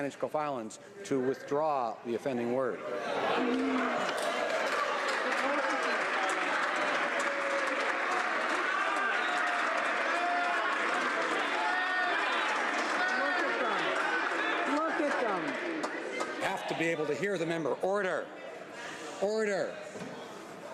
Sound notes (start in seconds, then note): 9.3 some Applause